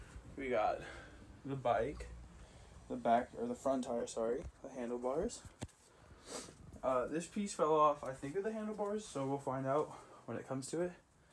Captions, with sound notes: we got the bike the back - or the front tire sorry the handlebars (SNIFF) uh this piece fell off i think of the handlebars so we'll find out when it comes to it